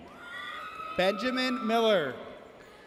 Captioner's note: audience cheers